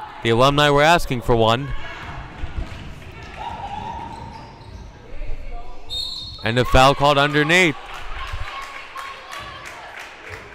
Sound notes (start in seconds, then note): 5.9 whistle blowing